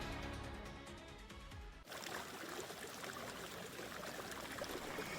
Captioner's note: water gushing